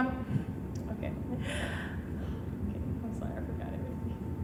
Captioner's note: laughing